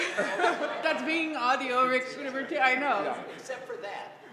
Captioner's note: laugh